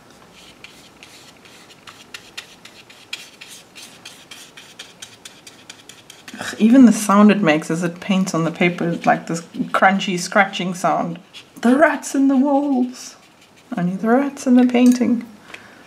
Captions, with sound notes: [brush sweeping noises] Ugh, even the sound it makes as it paints on the paper, like this crunchy, scratching sound... "The Rats in the Walls!" I mean... The Rats in the Painting!